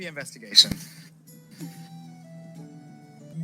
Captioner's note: chuckles under his breath